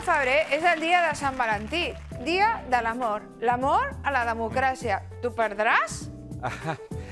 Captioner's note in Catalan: aplaudiments